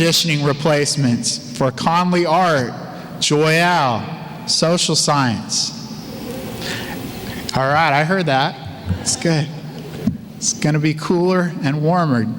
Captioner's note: audience cheer